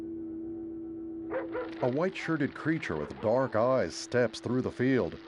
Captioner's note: helicopter passing